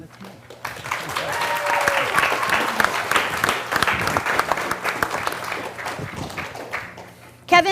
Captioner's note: applause